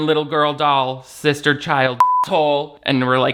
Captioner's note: beep